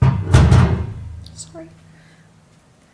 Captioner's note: equipment clattering